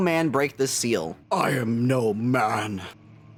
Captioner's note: deep voice